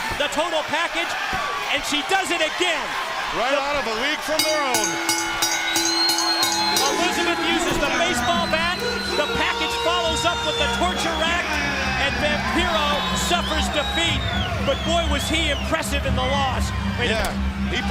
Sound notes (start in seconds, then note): 7.9 bell ringing; 8.9 crowd cheering